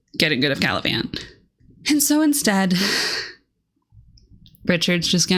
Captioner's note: sigh